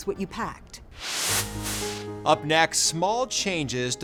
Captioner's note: swooshing